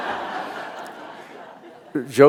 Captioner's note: laughter